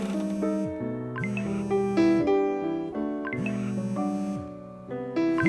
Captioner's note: phone vibrating